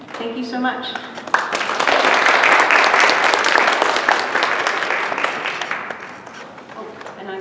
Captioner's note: applause